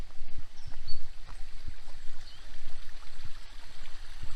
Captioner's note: bird song and water trickling